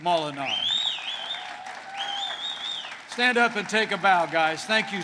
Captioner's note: applause